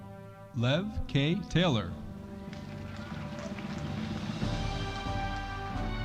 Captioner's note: audience applauding